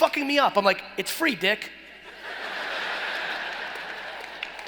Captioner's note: laughing